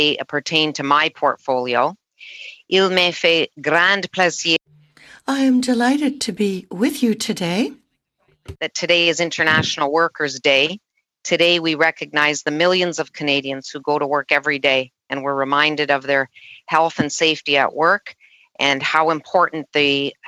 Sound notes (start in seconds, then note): 6.4 speaking French